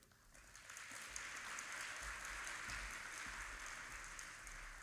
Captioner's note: audience applauding